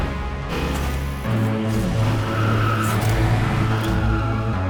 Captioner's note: lights buzzing